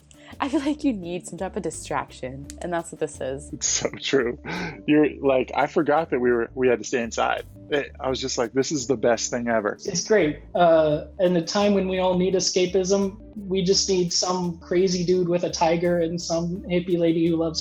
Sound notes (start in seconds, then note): 3.8 chuckles